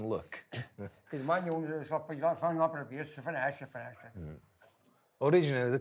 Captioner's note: speaking foreign language